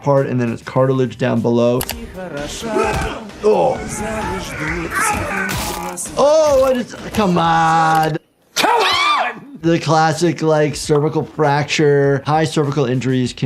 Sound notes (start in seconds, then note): 1.9 fighting and yelling; 8.5 yelling